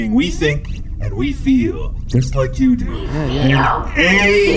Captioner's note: raspy